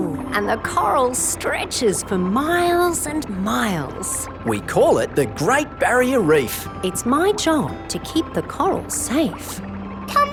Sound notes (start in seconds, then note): none